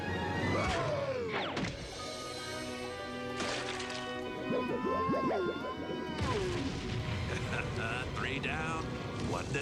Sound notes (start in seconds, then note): 5.2 groans